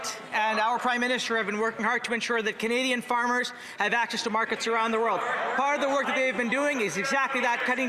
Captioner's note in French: voix de l'interprète